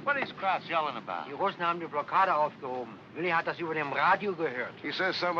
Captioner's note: speaking in German